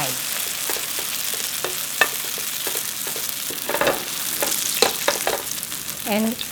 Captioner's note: sizzling